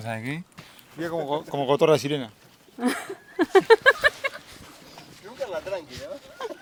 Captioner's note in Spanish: Risas